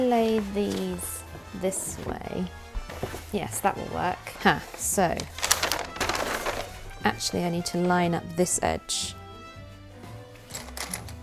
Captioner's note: rustling